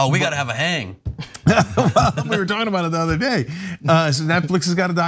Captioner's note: laugh